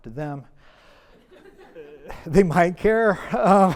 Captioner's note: audience laughs